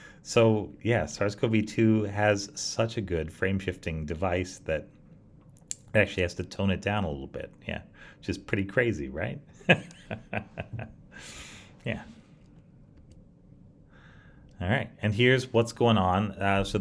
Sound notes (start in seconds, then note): 9.6 laughs